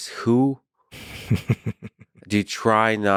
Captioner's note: laughs